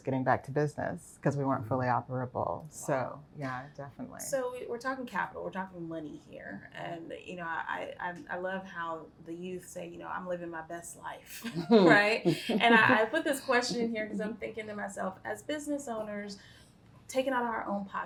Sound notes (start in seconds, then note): 11.4 laughs; 11.4 chuckles